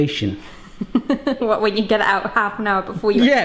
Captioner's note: laughs